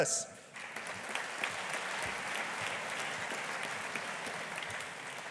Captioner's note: audience applauding